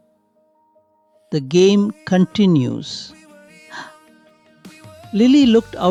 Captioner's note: gasps